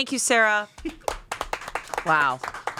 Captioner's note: everyone applauds